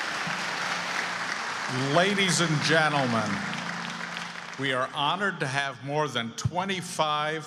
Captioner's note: applause